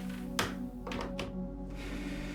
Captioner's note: phone clicking in receiver; sigh